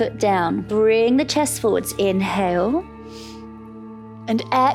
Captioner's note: inhales